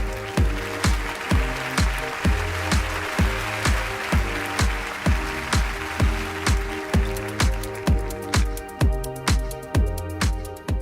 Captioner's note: applause